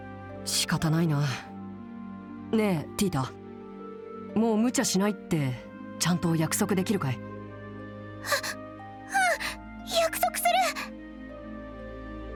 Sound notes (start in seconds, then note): 0.4 sigh; 8.2 sniffle